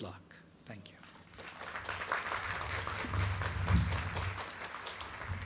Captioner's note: crowd clapping